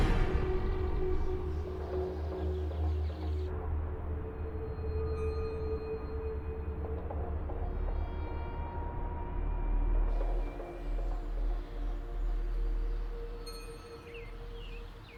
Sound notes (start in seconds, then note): 0.0 music mellows; 13.4 distant wind chimes